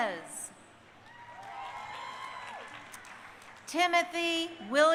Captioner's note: crowd cheering